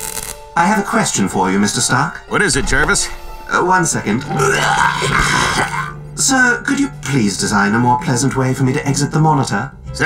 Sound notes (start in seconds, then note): 4.4 retches